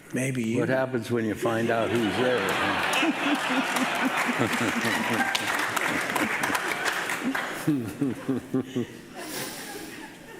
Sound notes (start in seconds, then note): 1.1 audience laughing; 3.6 laughing